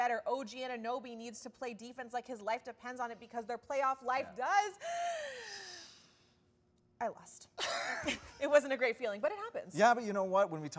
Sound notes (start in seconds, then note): 4.8 inhales; 7.6 both laugh